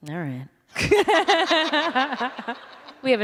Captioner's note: laughter